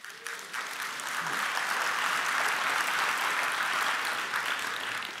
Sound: applause

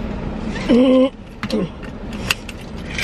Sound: clears throat

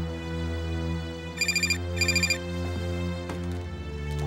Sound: phone rings

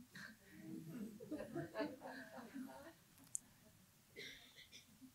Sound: audience laughing

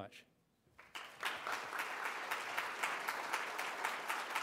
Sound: applause

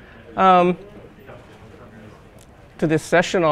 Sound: audience murmurs

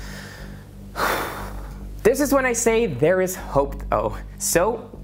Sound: sighs

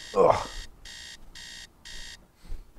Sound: alarm ringing

